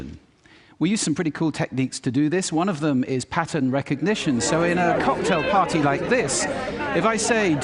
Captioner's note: loud background chatter plays